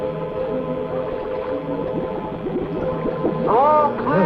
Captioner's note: bubbling